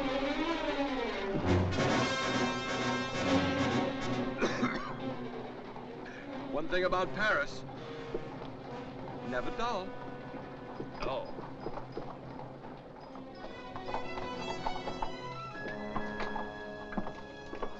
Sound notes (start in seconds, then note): 0.0 dramatic music; 4.2 Fouche coughs; 13.4 dramatic music